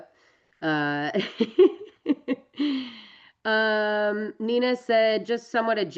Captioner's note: laughs